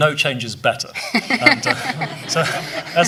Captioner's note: laughing